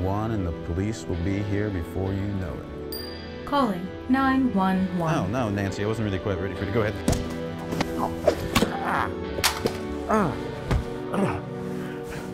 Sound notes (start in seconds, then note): 2.7 phone chimes; 8.4 groans